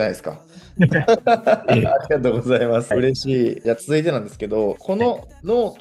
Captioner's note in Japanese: 笑い